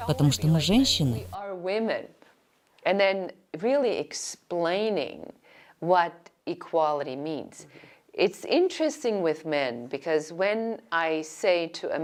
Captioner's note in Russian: Разговаривают на английском